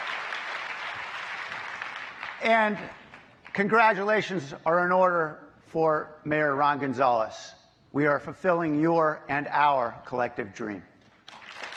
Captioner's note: applause